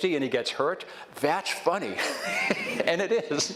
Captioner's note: laughs